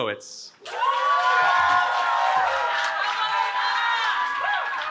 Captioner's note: cheering